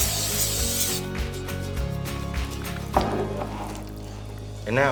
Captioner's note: can spraying; squishing sound